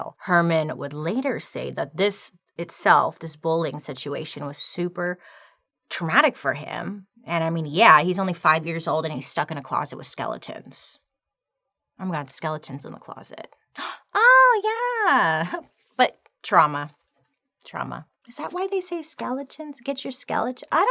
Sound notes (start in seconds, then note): 13.8 gasping